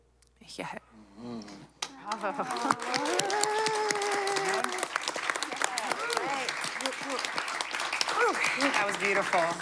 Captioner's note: applause